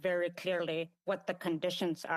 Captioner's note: speaking indigenous language